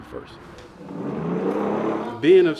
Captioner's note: wheels roaring